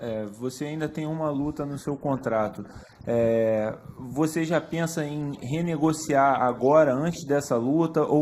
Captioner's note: speaking foreign language